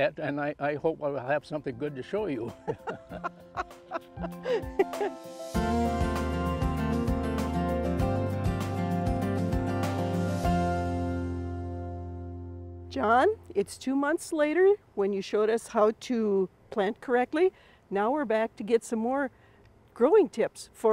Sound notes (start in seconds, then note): 5.7 laughing; 13.5 gentle music